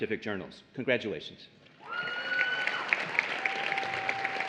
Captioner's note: applause and Cheering